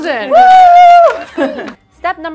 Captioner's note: cheer